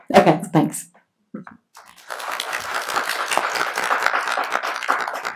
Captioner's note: applauding